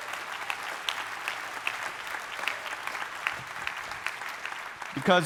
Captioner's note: audience applauding